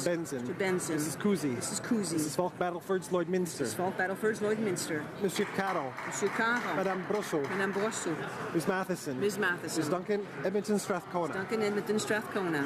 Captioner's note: calling of recorded vote